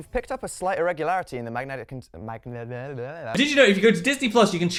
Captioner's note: stutters